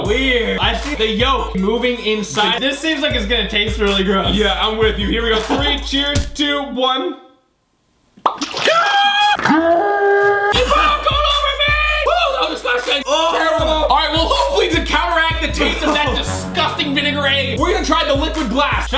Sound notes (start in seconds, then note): 8.2 pop; 8.2 splashing; 9.2 screeching